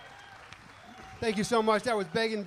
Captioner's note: audience applauding and cheering